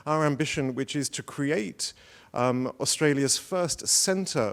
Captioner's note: none